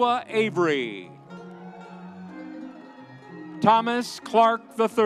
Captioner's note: audience cheering